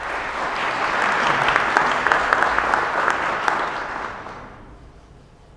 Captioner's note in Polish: oklaski